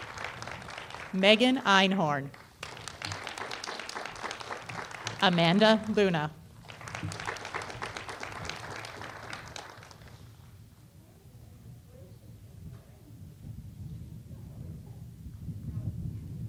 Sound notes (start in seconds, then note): 2.1 applause